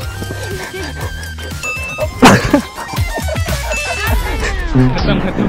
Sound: tumbling

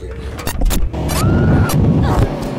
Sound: Stephanie screams; camera thuds to ground, engine speeds off

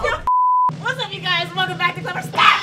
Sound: beep

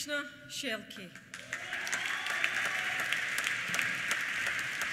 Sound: applause; cheers

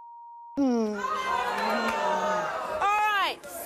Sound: audience gasps

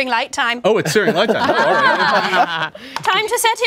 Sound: everyone laughs

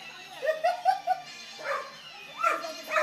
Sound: laughing

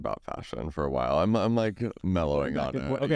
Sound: laughs

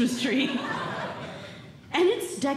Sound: audience Laughing

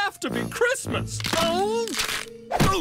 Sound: bones cracking

